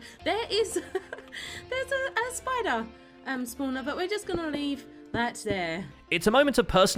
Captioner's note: laughs